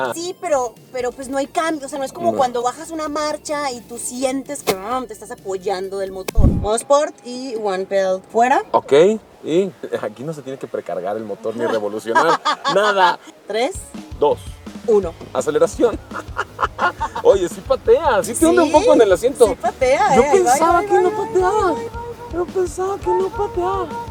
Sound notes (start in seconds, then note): 15.8 laughter